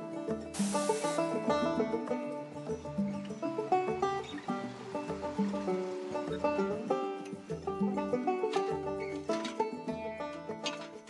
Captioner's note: farming noises